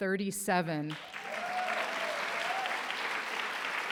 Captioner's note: applause